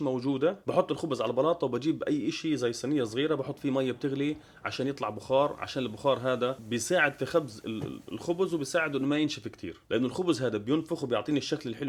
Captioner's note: steam